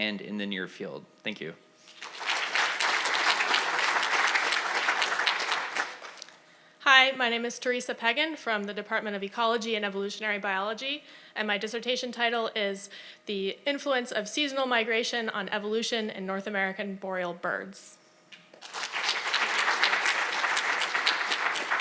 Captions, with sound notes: and in the near field. Thank you. (audience applauding) - Hi, my name is Teresa Pegan from the Department of Ecology and Evolutionary Biology. And my dissertation title is the influence of seasonal migration on evolution in North American boreal birds. (audience applauding)